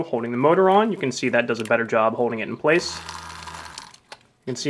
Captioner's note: buzzing noise